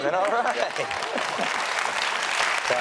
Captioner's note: audience applauds